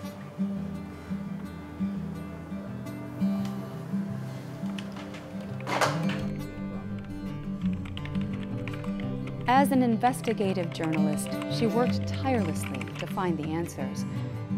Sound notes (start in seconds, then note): 7.3 typing